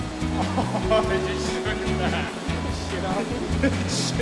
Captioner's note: laughing